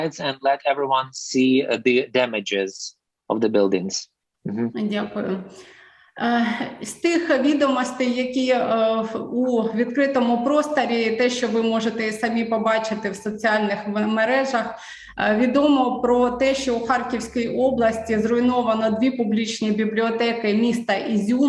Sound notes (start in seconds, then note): 6.1 foreign Language